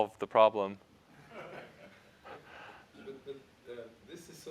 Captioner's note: laughter